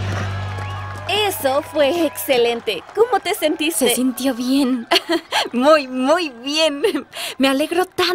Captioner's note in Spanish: ríe